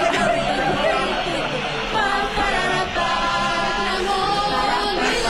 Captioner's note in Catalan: xiulada general